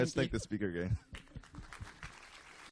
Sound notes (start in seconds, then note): 0.0 both laugh; 1.3 applause